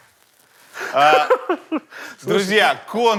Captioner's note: laughs